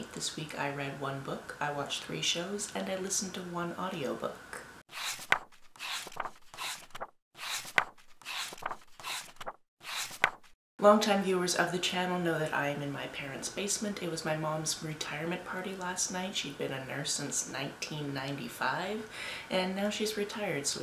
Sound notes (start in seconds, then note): 4.9 pages turning